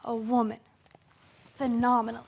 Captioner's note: rustling